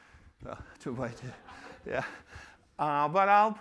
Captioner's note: laughter